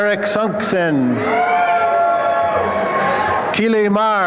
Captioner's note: applause and cheering